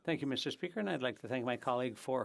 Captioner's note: speaking FRENCH